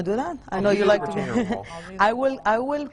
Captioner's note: laughs